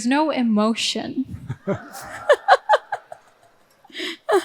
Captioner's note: all laughing